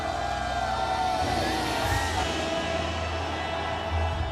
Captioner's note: intense music; troops cheer; intense music